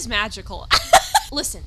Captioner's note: laughs